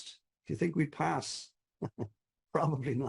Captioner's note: chuckles